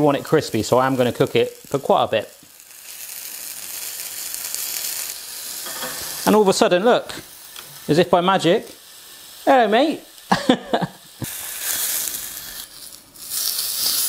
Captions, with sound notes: so I am gonna cook it for quite a bit (sizzling bacon) and all of a sudden, look, as if by magic, hello mate (laughs).